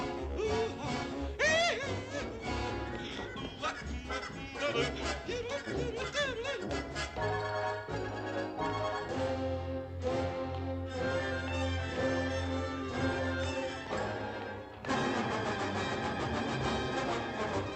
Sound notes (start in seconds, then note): 3.2 humming and babbling